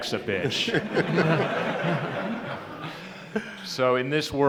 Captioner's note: laughter